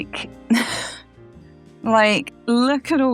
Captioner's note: despairing laugh